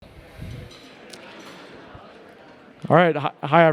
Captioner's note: attendees chatting